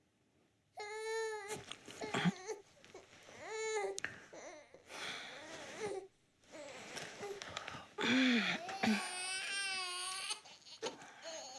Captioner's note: baby crying